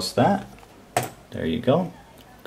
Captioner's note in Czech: kliknutí myši